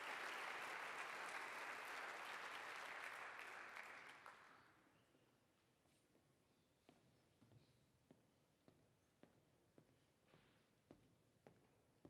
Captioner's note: applause